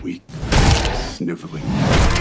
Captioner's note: slap